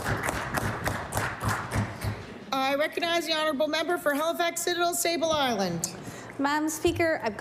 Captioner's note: applause